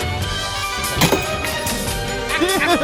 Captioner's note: spits; laugh